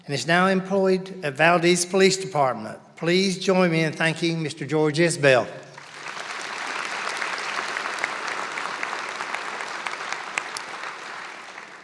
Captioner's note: applause